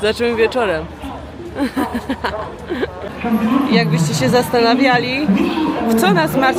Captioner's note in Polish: śmiech